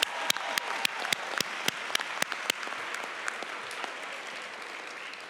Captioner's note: applause and cheers